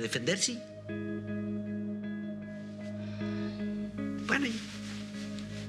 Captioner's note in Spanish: suspiros